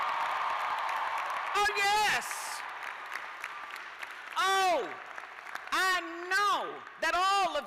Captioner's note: cheers and applause